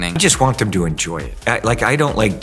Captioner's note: none